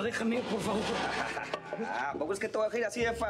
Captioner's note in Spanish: risas